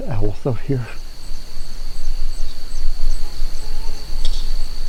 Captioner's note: animal noises; crickets chirping